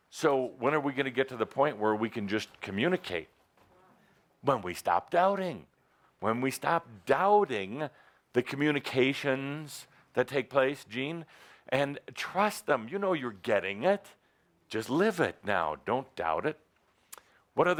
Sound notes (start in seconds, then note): none